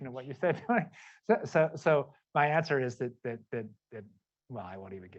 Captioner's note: laughter